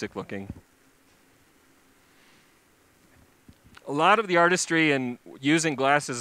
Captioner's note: pause